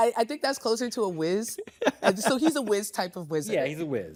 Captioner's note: chuckles